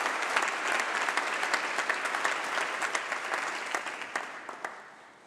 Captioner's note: applause